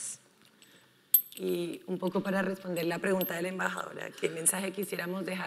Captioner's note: speaking in foreign language